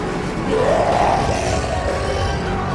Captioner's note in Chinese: 遠方的咆哮